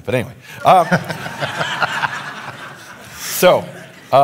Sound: audience laughing

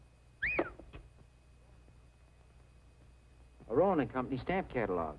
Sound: Queen whistling

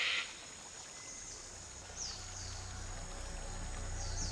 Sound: bird screeching; insects trilling

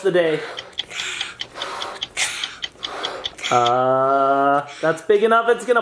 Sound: clock ticking; blowing up balloon

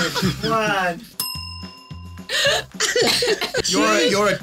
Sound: laughing; bell dinging

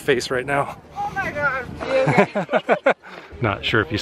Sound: laughter

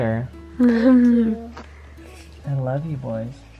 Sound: chuckling

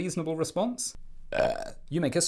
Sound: belch

